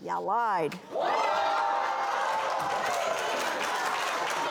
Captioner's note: audience erupts